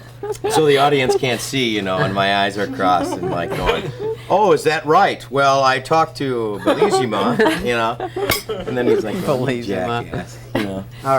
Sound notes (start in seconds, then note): 6.5 everyone laughs